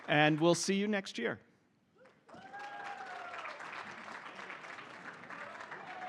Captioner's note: cheering, applause